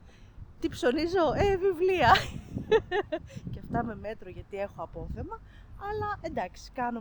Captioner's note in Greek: γέλια